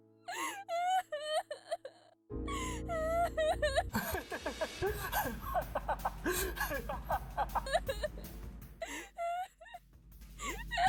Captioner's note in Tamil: சிரிப்பு